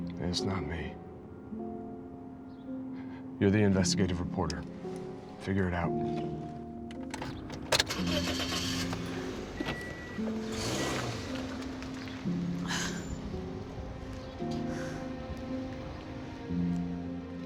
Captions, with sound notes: And it's not me. You're the investigative reporter, figure it out. (engine starting) (soft piano music)